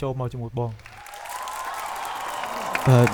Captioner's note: cheering